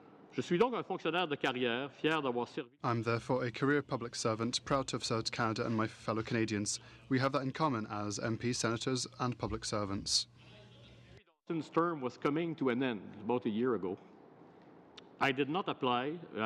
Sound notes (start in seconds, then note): 5.3 speaking french